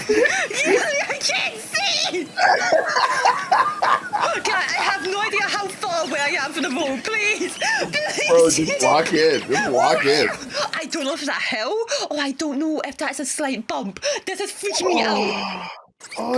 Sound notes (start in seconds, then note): 2.3 evil laugh